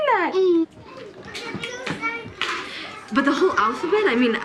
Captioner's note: kids talking indistinctly